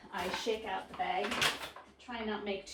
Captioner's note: flour bag crumbling